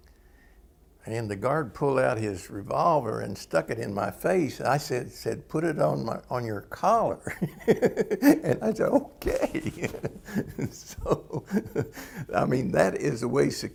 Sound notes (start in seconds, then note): 9.2 laughter